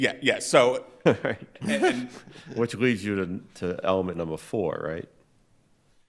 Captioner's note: chuckling